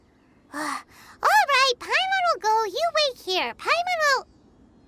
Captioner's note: sigh